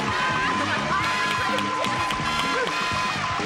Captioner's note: indistinct conversation